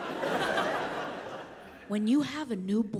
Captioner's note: audience laughs